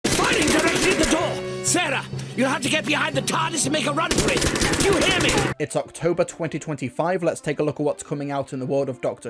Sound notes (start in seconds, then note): 0.0 gunfire